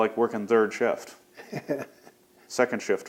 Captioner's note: laughs